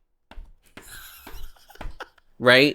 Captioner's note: laughs